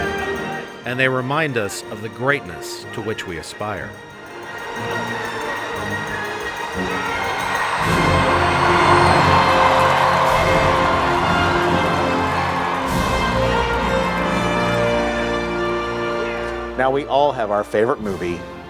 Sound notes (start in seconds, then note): 3.6 Movie excerpt - Rudy: Sounds of crowd cheering